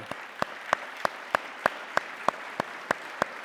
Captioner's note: claps